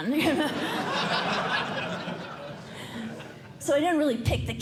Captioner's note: laughter